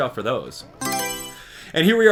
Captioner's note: Mario Selection Sound